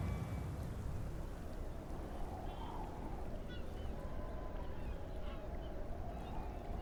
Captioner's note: heavy winds blowing; seagulls crying